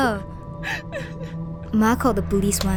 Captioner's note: girl sobbing